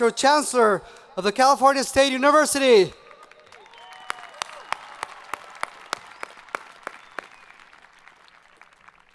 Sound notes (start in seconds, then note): 3.1 students cheering